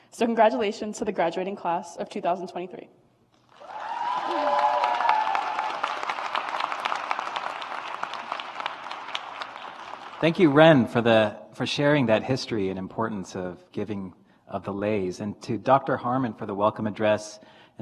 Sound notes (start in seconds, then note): 3.5 audience applauds